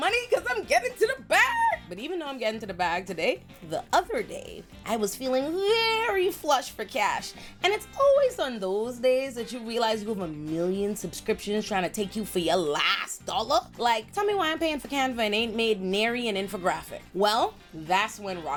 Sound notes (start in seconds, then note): none